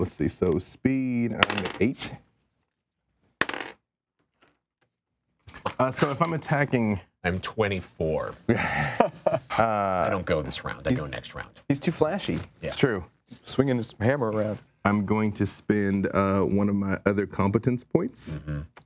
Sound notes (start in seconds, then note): 3.4 dice clattering; 8.4 laughing